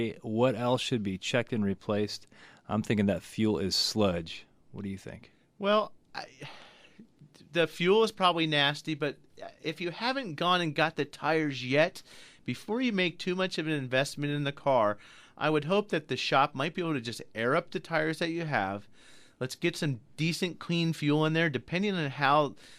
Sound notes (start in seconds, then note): 6.2 sighs